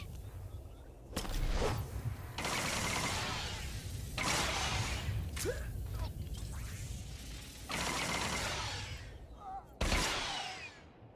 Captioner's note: gunshots